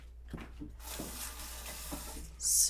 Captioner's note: running water